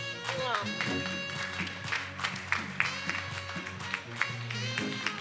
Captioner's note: attendees applauding